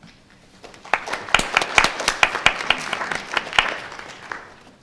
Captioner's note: audience applauds